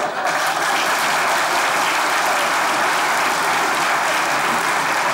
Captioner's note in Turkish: Alkış sesleri